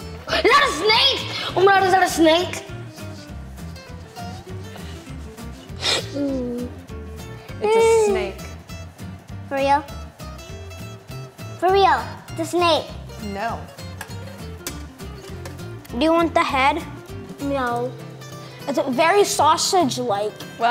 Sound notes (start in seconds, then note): 4.4 gasping; 7.6 groaning